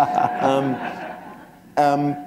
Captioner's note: laughter